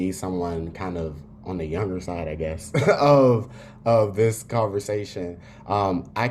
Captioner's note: laugh